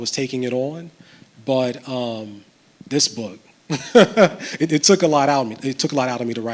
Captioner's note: chuckles